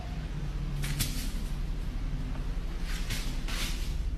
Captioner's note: brush cracking